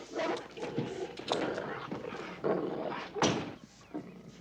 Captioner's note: dog growling and snarling